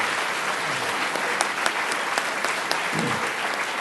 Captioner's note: applause